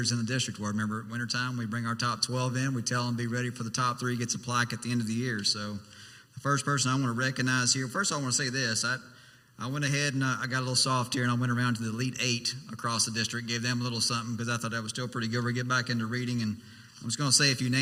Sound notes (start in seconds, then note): none